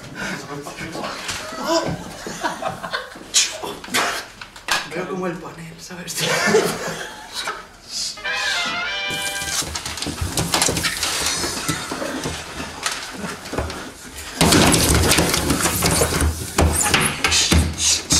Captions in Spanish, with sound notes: OHH *ríen* TENGO COMO EL PANEL ¿SABES? *laughs* shh